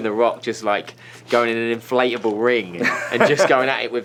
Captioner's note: Byron laughs